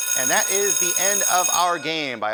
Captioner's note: buzzing